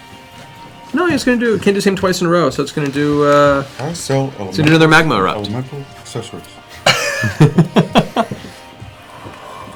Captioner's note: laughs